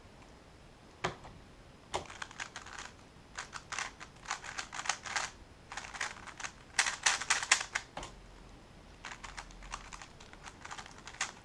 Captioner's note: cube noises